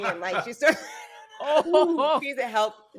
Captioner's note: all chuckling